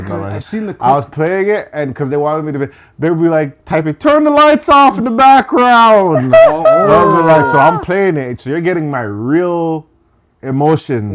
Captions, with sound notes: I was playing it, and because they wanted me to be like, type it, "Turn the lights off in the background." (laughing) So I'm playing it, so you're getting my real emotions.